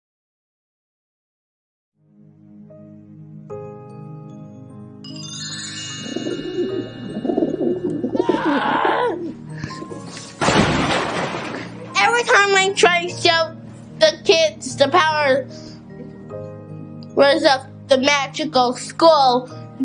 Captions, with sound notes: [groaning] [crashing] Every time I try to show the kids the powers of the magical school,